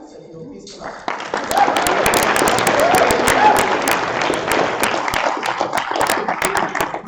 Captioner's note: applause